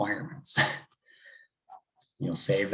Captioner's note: chuckles